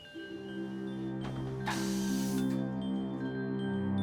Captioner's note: soft music playing; air hissing